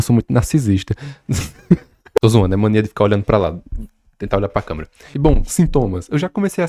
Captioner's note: laughs